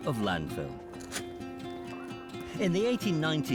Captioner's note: shovel crunching